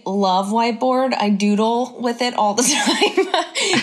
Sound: laughs

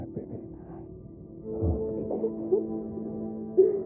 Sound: sobbing

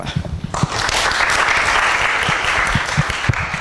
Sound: applause

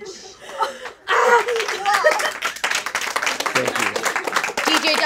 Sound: audience applauding

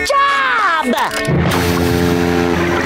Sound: horn blowing

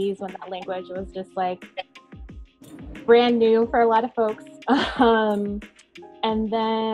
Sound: chuckling

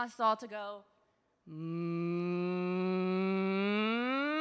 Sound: moaning

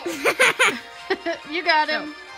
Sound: laughing

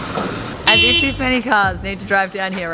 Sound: horn honking

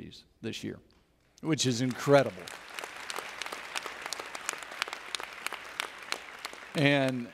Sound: audience Applauds

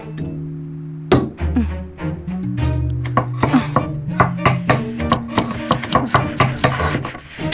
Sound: bangs

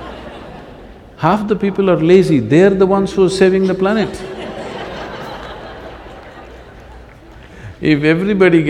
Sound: laughter; laughter

